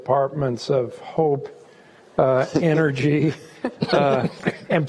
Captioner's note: laughing